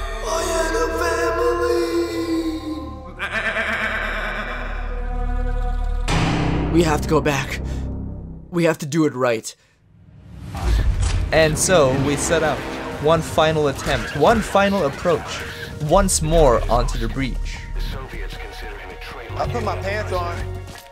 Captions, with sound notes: I had a family! [goat bleating] We have to go back. We have to do it right. And so we set out. One final attempt. One final approach. Once more unto the breach.